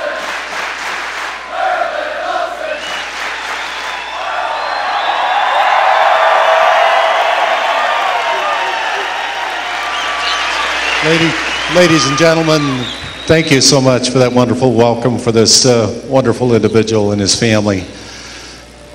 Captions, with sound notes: [CLAPPING] Merlin Olsen. [CLAPPING] [CHEERING] Ladies and gentlemen, thank you so much for that wonderful welcome for this wonderful individual and his family.